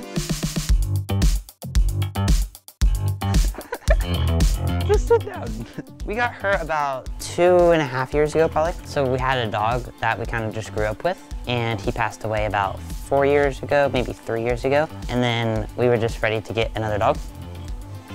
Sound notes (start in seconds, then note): 0.2 upbeat music; 3.2 laughing